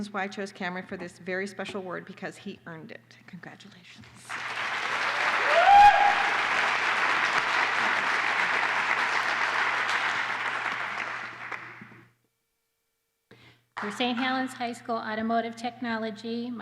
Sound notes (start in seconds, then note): 4.2 applause